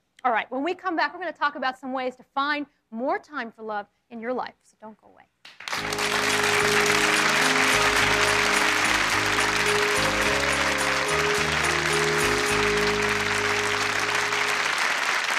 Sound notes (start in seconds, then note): 5.5 audience applauds; 5.7 inspirational music